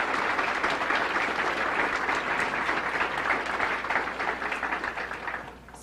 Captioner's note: claps